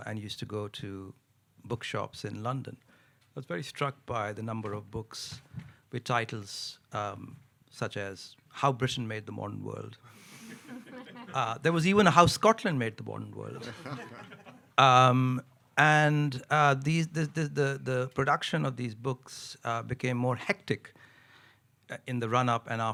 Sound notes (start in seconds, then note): 10.4 audience chuckling; 13.6 audience chuckling